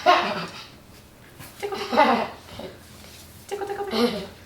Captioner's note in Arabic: يضحك